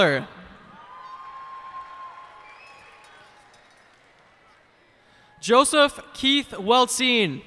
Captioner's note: cheers and applause